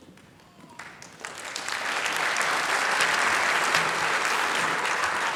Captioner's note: applause